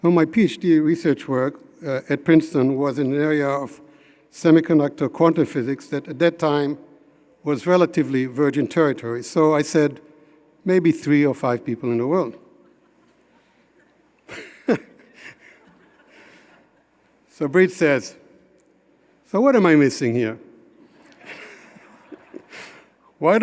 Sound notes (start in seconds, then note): 14.2 chuckling; 21.0 audience chuckling